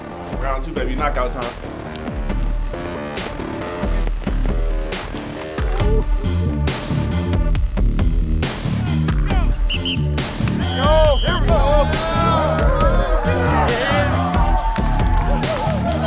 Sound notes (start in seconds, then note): 3.0 intense music; 9.4 whistle blows; 13.3 team cheering